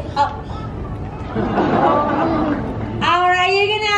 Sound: audience awing

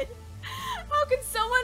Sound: inhales

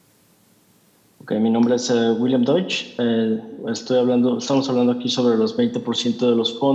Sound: translator speaking in Spanish

